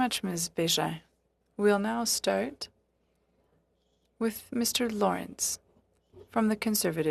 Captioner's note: speaking French